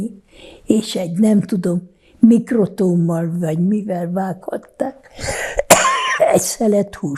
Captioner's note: coughing